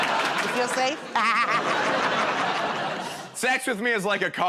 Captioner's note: laughs